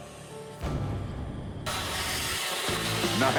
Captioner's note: fuse burning